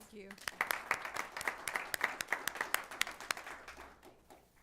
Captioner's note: applause